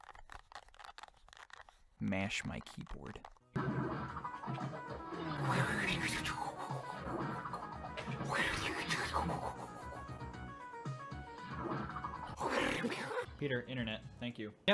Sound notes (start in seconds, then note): 5.4 makes pinball noise